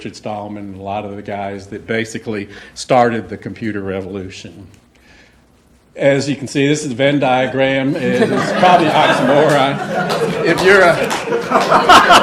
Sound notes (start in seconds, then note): 7.9 laughter